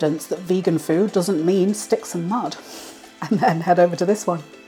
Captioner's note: laugh